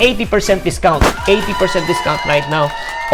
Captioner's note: cheers